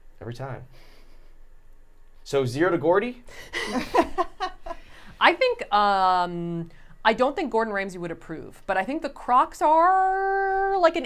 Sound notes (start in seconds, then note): 3.5 all chuckling